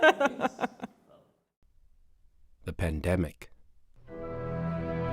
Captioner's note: women laughing